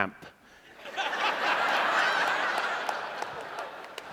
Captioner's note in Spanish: Risas